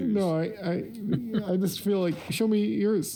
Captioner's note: laughing